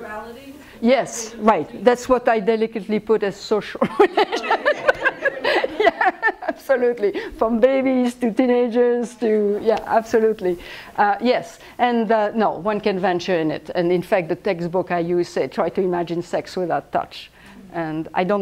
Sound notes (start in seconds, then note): 3.8 laughs